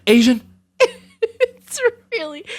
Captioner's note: laugh